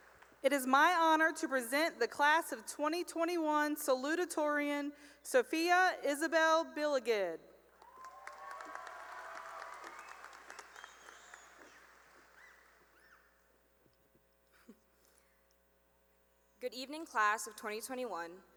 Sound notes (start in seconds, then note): 0.0 cheering and applause; 7.8 cheering and applause